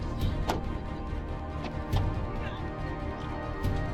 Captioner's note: door slams